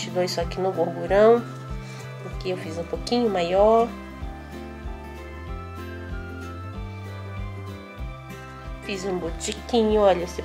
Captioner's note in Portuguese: rsss